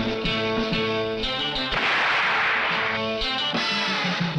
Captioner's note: tense music continues; gun shoots